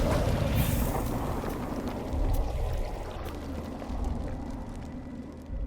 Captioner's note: air whooshing; dramatic music; liquid burbling